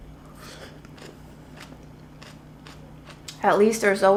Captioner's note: cabbage crunching